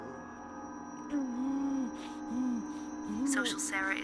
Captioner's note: Kenny pants and groans